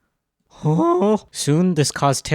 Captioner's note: mean chimp noise